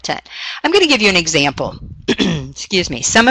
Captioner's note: clears throat